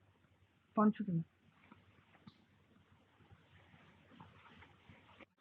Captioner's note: speaking in foreign language